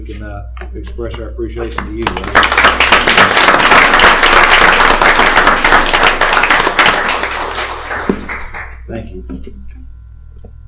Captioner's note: applause